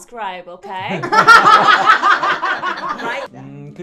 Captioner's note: laughing